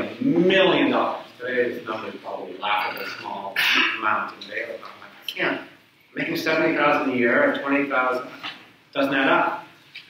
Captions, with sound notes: Where am I gonna get a million dollars? Today, it's nothing, probably a laughably small amount (speaks away from mic). Making $70,000 with $20,000, it doesn't add up,